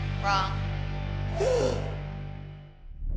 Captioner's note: exhales loudly